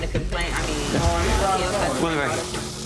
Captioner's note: people chattering